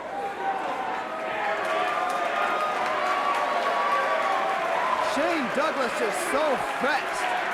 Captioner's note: crowd cheering